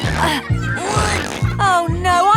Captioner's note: grunting